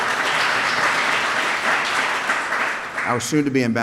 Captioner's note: applause